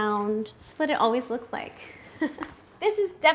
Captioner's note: chuckles